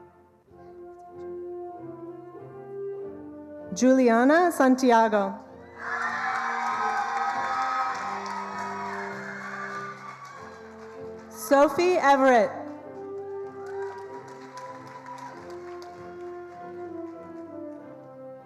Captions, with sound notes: Juliana Santiago. (attendees cheering and applauding) Sophie Everett. (attendees applauding)